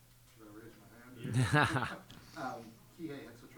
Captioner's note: laughs